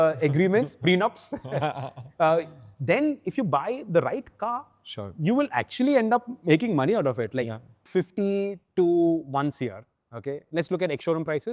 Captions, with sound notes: those kind of, uh, agreements- Prenups [laughing] ... [chuckles] uh, then if you buy the right car- Sure ... you will actually end up making money out of it. Yeah. Like 50 to 1 CR, okay?